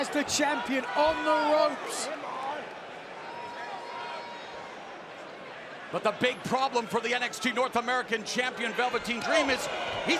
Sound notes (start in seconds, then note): 4.7 crowd chatter